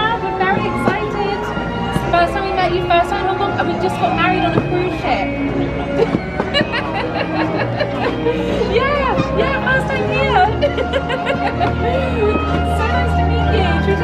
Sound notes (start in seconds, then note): 6.5 laughs